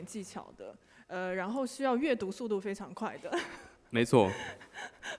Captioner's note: laughing